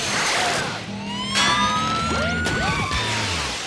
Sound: sirens

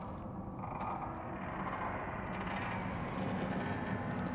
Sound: distant creaking

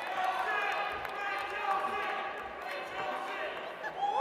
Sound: audience applauds

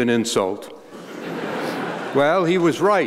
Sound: laughter

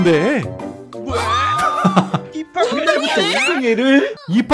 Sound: murmuring

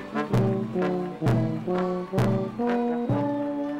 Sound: clapping and cheering in distance

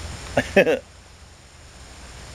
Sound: chuckle

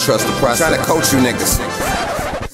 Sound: record scratch

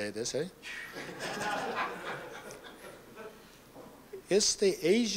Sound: laughter

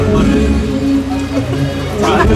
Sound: laughing

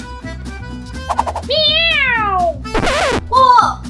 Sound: cat meowing

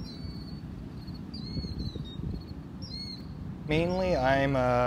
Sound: birds calling

